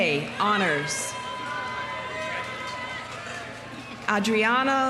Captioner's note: audience cheering; audience applauding